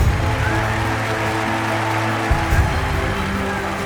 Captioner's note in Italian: applausi e grida